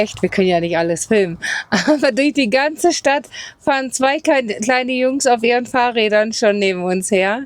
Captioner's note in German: gelächter